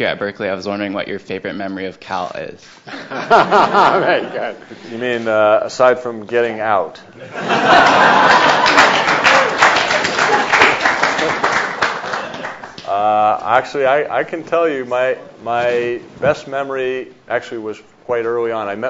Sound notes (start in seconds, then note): 2.9 audience laughs; 7.2 audience laughs and claps